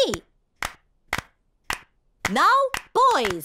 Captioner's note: girls clapping